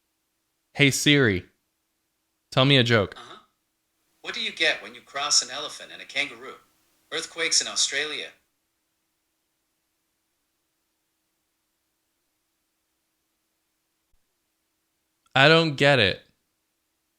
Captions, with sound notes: Hey Siri, tell me a joke "What do you get when you cross an elephant and a kangaroo? Earthquakes in Australia" [Silence] I don't get it